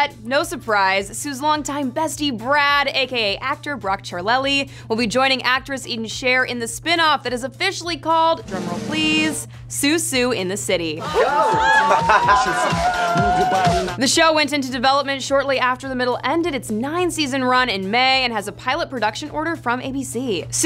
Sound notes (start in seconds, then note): 8.4 drumming; 11.0 both cheering